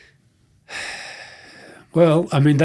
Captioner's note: sighing